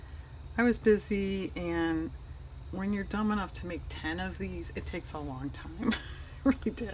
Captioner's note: laughs